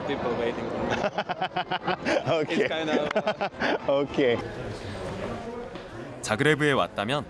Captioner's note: laughter